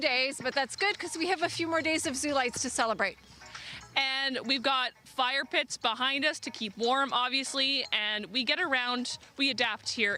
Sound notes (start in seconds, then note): none